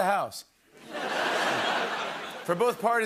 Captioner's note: laughter